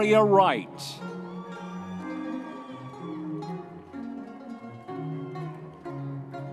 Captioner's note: audience members cheering